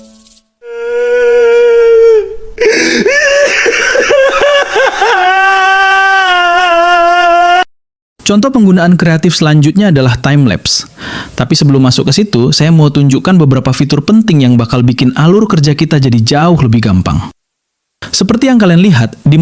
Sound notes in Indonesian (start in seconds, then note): 1.6 berteriak; 2.6 tertawa; 4.9 menangis